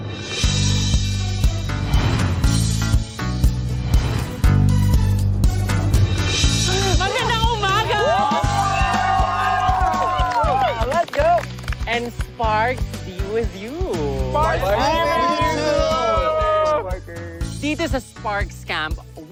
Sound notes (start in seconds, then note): 0.1 bright music playing; 8.0 cheering, applauding